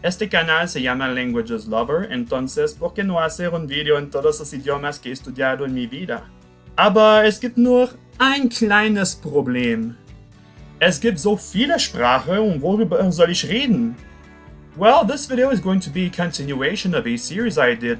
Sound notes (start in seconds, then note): 0.1 Spanish; 6.8 German